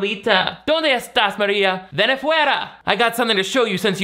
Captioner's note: speaking Spanish